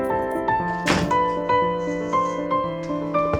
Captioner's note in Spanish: Puerta se cierra